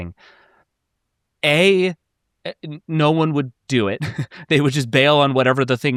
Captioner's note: chuckles